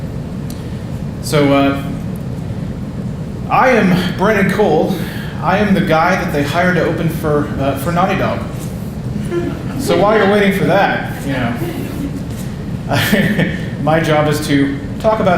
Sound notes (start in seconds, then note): 9.1 audience laughing; 12.0 laughing